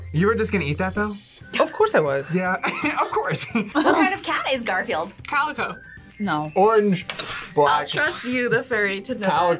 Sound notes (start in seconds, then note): 2.6 laughs